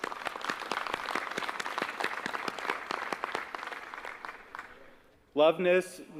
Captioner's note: applause